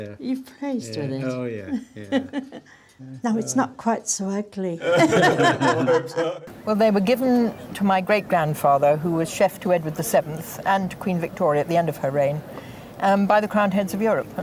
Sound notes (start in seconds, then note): 4.8 all laugh